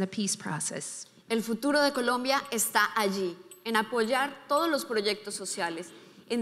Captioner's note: speaking in foreign language